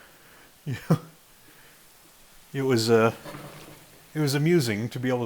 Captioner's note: chuckles